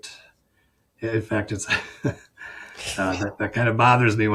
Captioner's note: chuckles